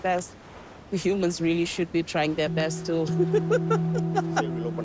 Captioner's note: laughs